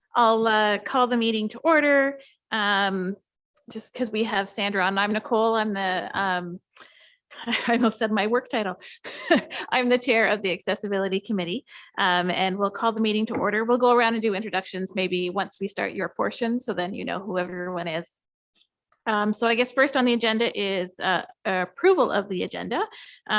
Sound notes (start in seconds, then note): 9.0 chuckles